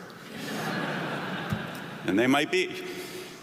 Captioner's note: audience laughing